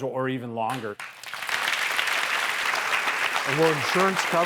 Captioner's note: clapping